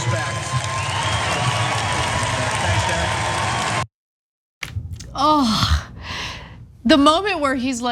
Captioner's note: applause